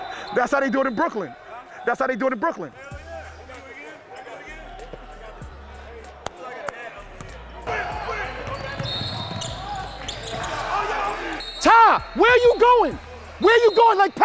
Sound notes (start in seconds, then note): 0.0 overlapping chattering; 6.3 overlapping chattering; 8.8 whistle tweets